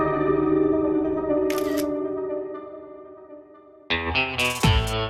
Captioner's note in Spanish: Clic de la cámara